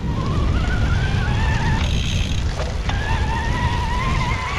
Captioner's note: wind whooshing